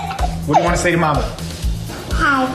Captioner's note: children laughing